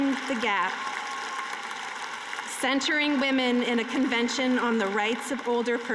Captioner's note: cheering and applause